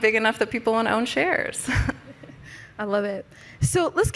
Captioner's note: chuckles